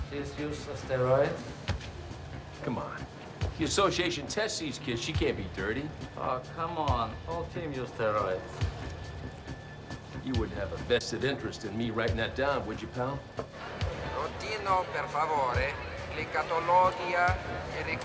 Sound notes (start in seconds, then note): 13.9 announcer speaking italian